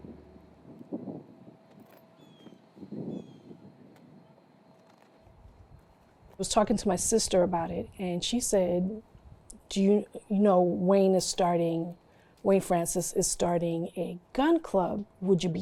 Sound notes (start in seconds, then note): 1.3 wind blowing; 3.0 bird calling